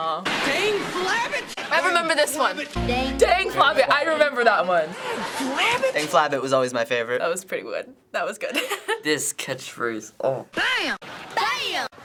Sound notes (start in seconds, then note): 8.5 laughs; 10.0 groans